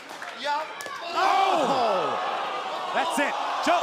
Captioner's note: crowd cheering